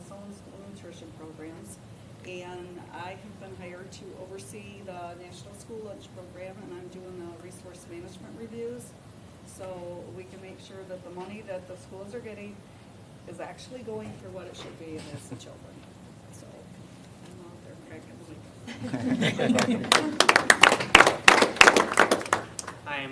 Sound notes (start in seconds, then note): 18.6 laughter; 19.4 applause